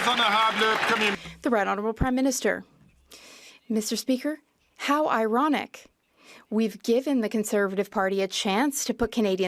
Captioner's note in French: applaudissements